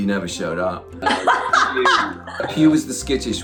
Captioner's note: laughs